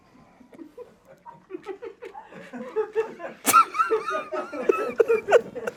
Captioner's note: everyone laughs